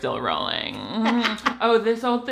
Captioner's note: laughs